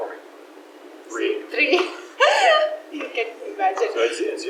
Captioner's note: laughs